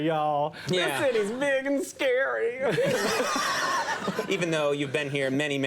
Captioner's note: audience laughing